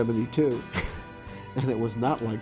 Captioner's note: chuckles